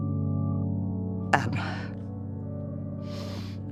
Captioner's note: Penny's voice falters